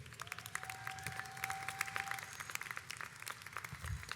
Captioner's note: audience applauds